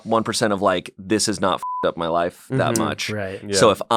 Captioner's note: beep